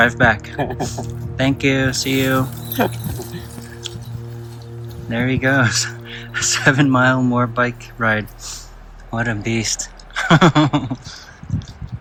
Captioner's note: laughter